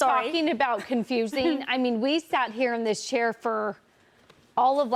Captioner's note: laughter